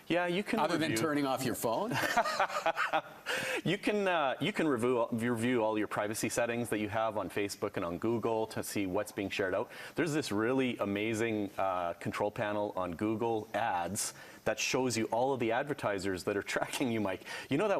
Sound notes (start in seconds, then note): 1.9 laughing